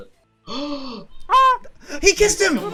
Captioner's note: gasps